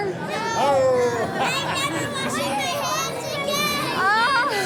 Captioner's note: voiceover